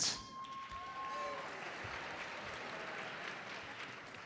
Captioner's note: audience applauds